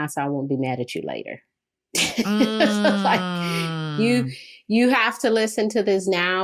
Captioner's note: laughs